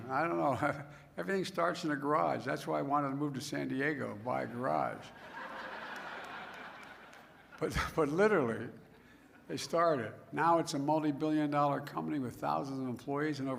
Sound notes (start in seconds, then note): 5.0 laughter